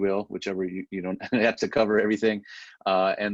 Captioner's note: laughs